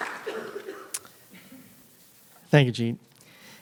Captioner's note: applause